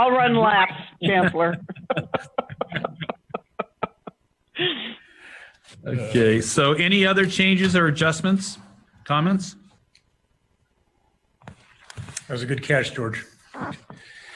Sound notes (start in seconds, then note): 0.0 laughter; 3.7 laughter